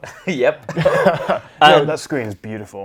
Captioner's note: both laugh